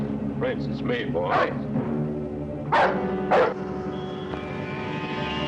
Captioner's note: dog barking; dramatic music